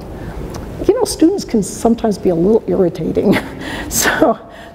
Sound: laughs

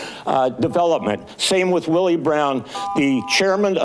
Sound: buzzer beeps

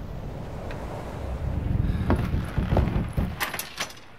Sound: ship creaking

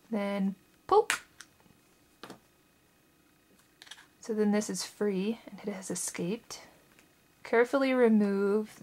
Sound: popping/clicking sound

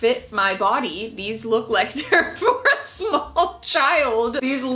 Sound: laughs

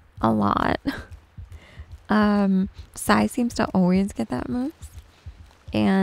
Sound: giggles

